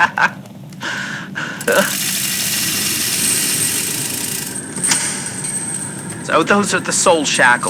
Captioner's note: soul shackles snap around Listener's neck fx